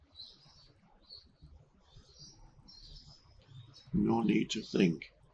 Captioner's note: birds chirping